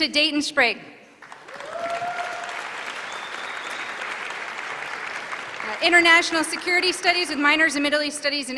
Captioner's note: applause